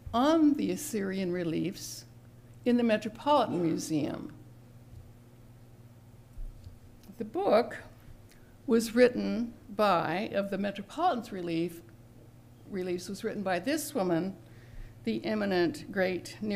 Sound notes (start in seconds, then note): 3.4 cough in background